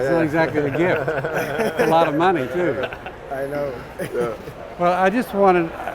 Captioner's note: laugh